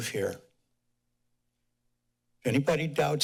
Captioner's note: pause